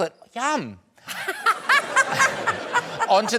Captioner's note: laughter